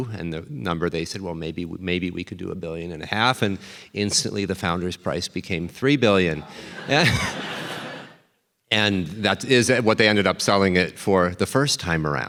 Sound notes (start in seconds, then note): 6.5 chuckles